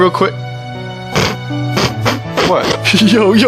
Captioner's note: chuckles